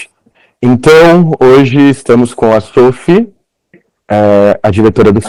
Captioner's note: speaking Portuguese